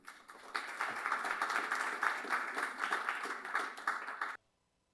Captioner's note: applause